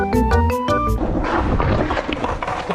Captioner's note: Crashende